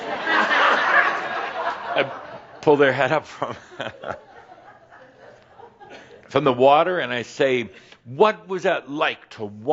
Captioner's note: laughter